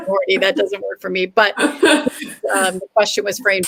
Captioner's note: laughter